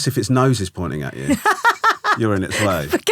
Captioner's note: laughing